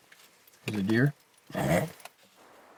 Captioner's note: chuckling